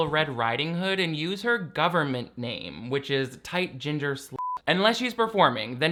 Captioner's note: beep